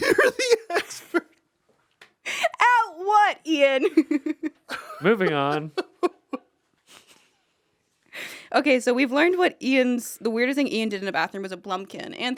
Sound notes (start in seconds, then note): 0.0 Anthony laughs; 3.8 laughs; 4.7 Anthony laughs